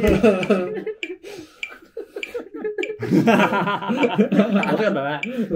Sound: laughing

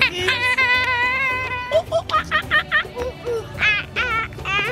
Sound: imitating monkeys

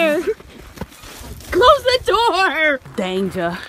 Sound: laughs

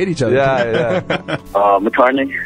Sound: guys laugh

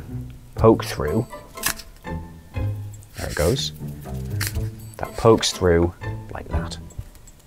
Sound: cardboard crunches

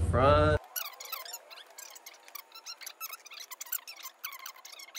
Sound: fast forward sound

